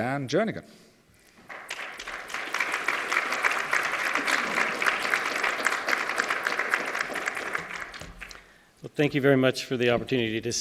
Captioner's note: applause